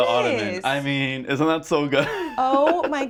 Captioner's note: laughs